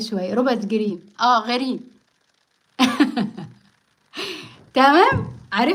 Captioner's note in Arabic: ضحك